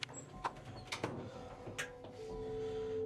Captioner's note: door shuts